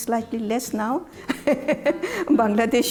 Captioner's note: laughs